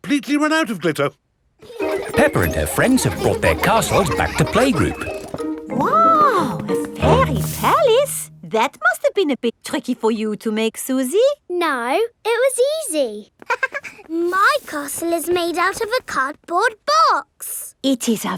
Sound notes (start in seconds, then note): 1.6 children laughing; 13.4 chuckles